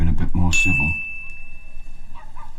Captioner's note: ding